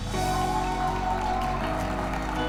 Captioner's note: wedding guests cheering